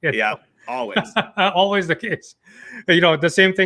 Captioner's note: laughing